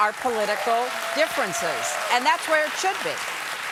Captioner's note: cheers and applause